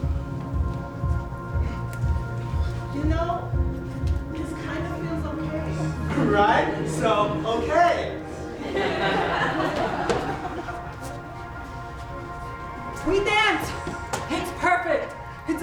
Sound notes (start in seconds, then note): 8.8 laughs